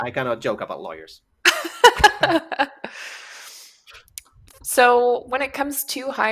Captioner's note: laughs